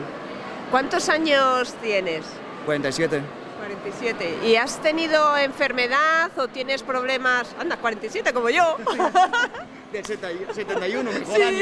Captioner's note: laughs